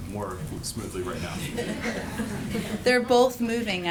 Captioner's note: laughter